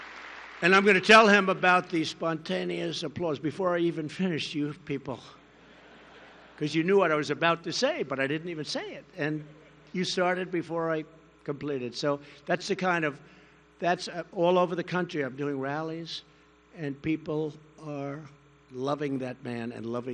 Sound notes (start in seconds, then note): 5.6 laughter